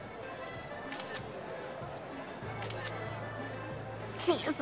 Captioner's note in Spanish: Clic de cámara